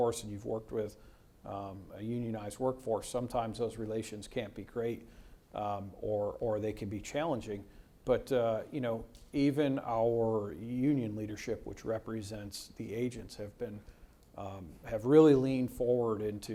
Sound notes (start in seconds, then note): none